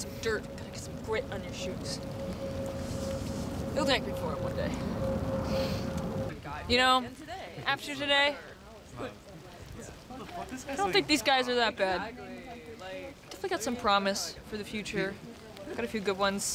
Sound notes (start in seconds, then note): 11.5 group converses